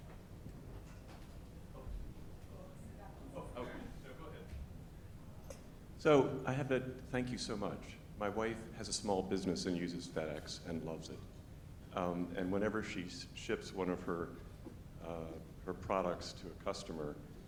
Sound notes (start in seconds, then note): 3.8 speaks faintly